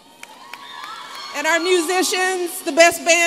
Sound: applause

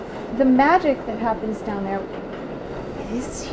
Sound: subway sounds

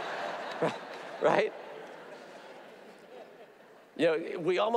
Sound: audience laughs

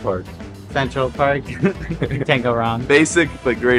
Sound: chuckle

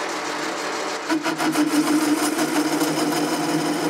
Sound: scratchy whirring

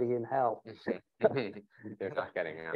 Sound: chuckles

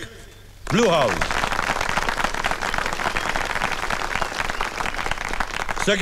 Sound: applauding

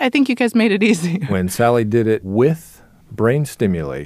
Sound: laughs

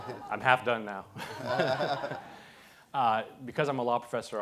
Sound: audience laughs

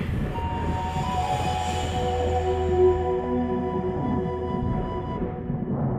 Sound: mystical music; thunder rumbling

